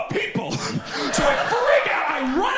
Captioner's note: audience laughs